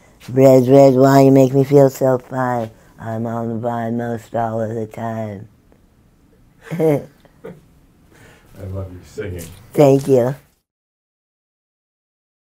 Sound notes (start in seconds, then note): 6.6 laughs